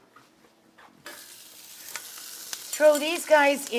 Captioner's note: food sizzling